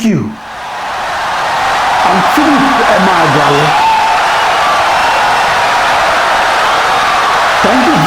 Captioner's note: wild applause and cheering for 17 seconds